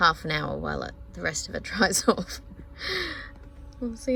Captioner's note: laughs